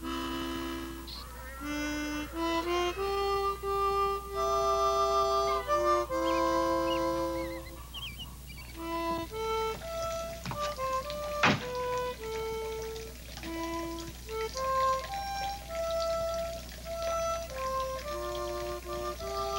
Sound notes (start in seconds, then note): 10.3 liquid gurgling